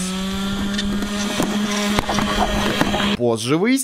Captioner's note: vacuum hell intensifies